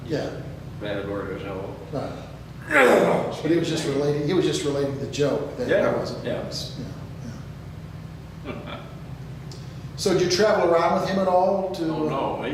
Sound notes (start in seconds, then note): 2.6 clears throat; 8.4 chuckles